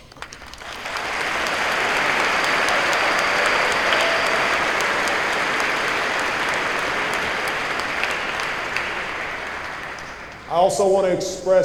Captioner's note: applause